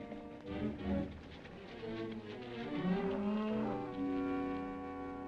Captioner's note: gentle music; horse hooves clopping; gentle music